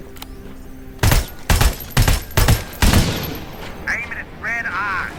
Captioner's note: gun firing